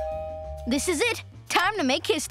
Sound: doorbell ringing

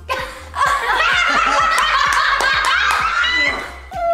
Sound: all laughing

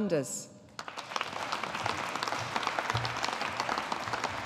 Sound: audience applauding

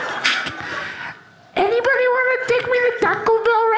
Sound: high pitched voice

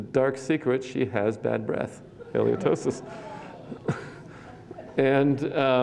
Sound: laughter

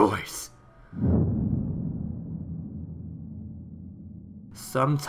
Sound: boom

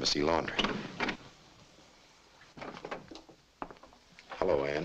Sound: door clicks open

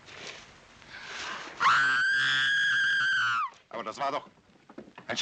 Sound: Gladys screaming

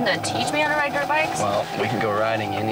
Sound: dirt bike engine revving

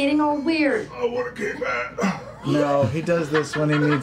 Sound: strained

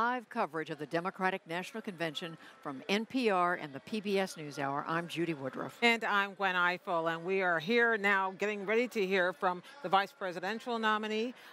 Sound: cheers & applause

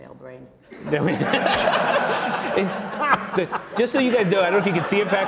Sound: laugh

